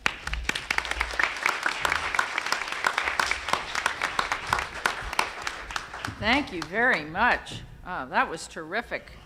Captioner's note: applause